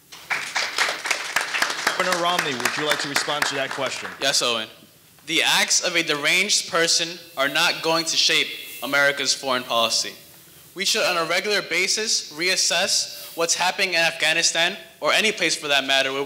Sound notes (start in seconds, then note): 0.1 audience applauding